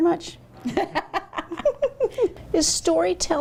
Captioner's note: both laughing